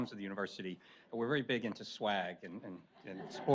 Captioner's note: audience laughs